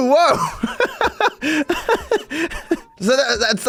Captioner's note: laughs